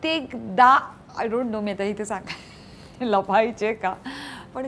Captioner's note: Chuckles